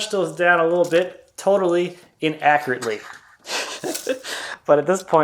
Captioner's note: laughs